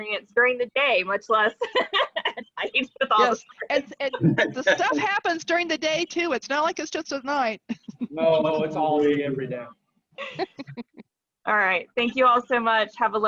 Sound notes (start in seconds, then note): 1.5 laughing; 7.6 chuckling; 10.2 laughing